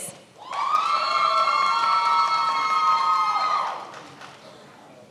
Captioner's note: many applauding